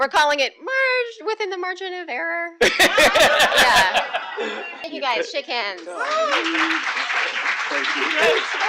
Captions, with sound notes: We're calling it within the margin of error [laughter] Thank You Guys! Shake Hands! [Applause]